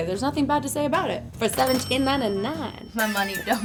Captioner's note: cash register dinging